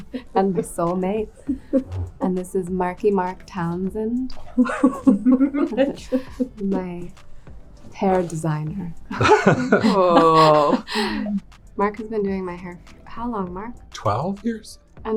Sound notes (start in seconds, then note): 4.4 laughing; 9.1 people laughing